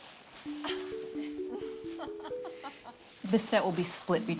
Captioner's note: laughs